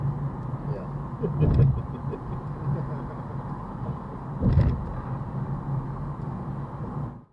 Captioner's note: passenger and I both chuckle at that